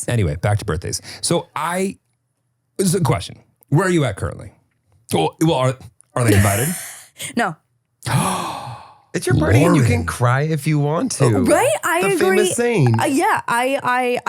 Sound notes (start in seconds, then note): 6.2 laughs; 8.1 gasping